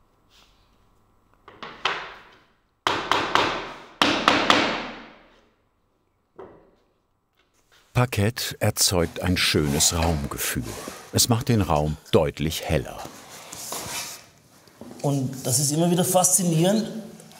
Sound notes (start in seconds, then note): 4.0 knock